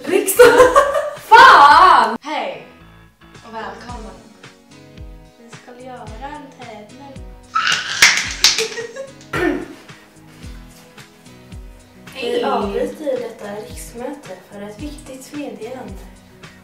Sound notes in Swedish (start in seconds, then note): 0.0 skratt; 7.5 skrik av entusiasm